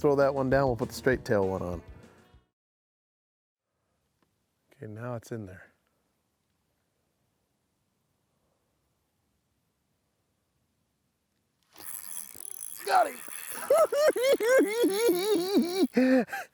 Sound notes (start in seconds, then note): 13.6 cackling